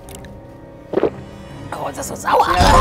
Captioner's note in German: Schlucken